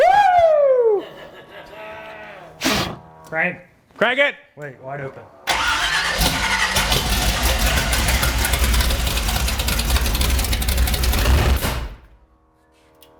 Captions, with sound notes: Woo! - Crank! - Crank it! - Wait, wide open. (engine roaring)